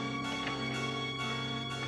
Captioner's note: door closes; door opens